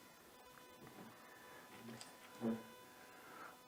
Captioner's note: machine humming